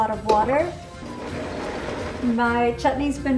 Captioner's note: blender running